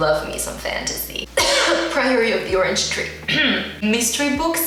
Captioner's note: cough